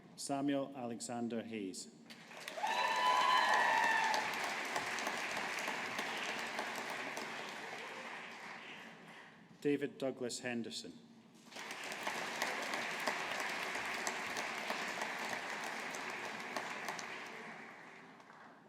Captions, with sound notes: Samuel Alexander Hayes. (AUDIENCE APPLAUDING) David Douglas Henderson. (AUDIENCE APPLAUDING)